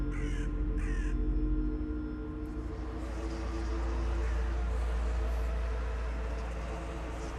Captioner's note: deep haunting music; bird caws